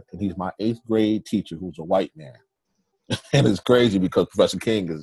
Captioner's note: chuckles